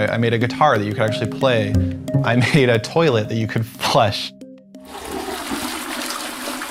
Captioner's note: flushing sound